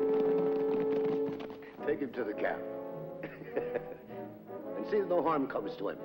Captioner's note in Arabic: موسيقى درامية; يضحك